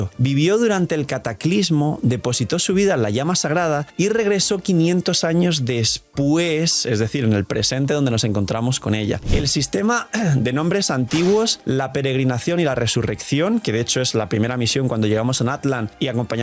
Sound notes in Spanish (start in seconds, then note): 10.4 carraspeo